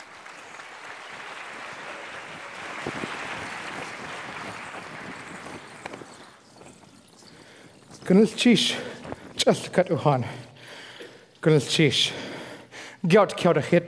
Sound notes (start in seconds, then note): 0.0 applauds; 8.7 foreign speaking